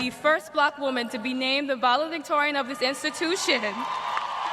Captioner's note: cheers and applause